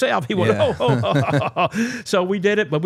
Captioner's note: both laughing